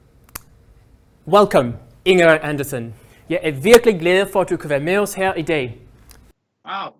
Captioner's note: welcomes her in Danish